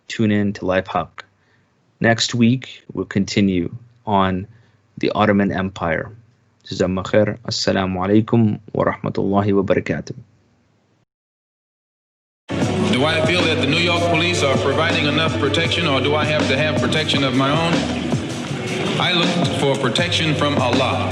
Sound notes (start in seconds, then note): 6.8 speaking in Arabic; 12.6 upbeat music